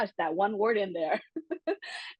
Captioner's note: laugh